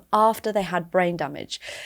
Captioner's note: none